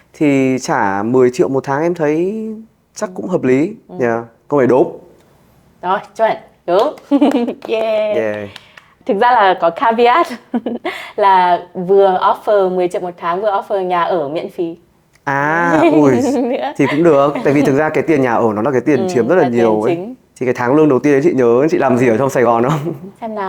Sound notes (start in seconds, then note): 6.8 applause